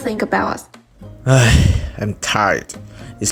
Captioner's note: sigh deeply